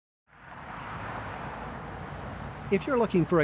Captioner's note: traffic noise